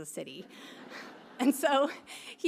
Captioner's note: audience laughing